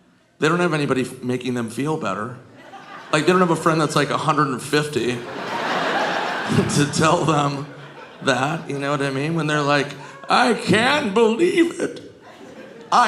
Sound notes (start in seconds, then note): 4.8 audience laughing